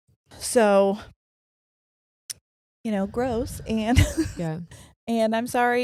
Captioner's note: laughing